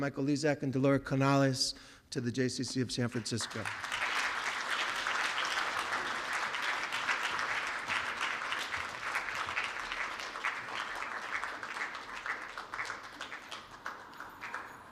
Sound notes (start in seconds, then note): 3.0 applause